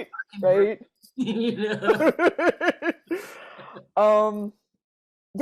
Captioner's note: both laughing